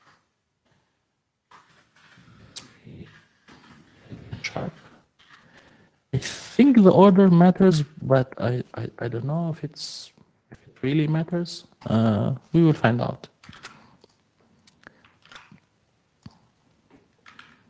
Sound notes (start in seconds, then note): none